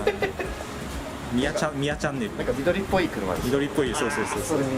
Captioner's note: laughs